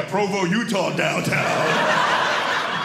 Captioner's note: audience laughing